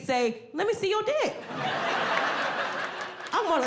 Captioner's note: audience laughing